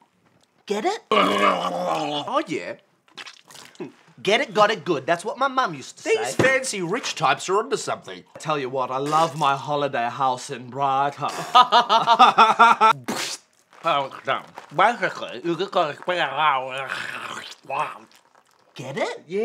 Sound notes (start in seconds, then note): 1.1 horrific mouth sounds; 11.3 laughter